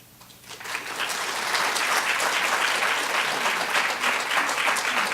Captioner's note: applause